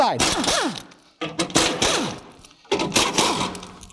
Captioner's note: drill buzzing